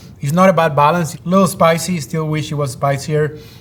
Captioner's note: none